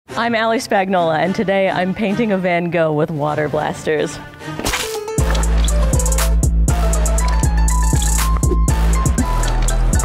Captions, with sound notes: - I'm Ali Spagnola, and today I'm painting a van Gogh with water blasters. (paint splattering) (upbeat electronic music)